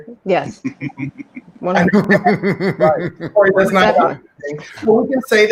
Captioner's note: chuckling quietly